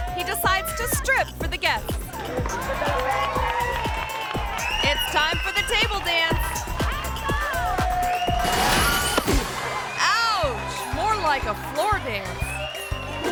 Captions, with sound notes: he decides to strip for the guest. (group cheers) It's time for the table dance. (table crashes) Ouch! More like a floor dance.